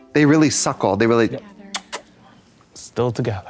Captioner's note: kiss sound